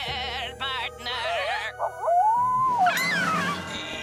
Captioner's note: Tabitha screams; wolf howling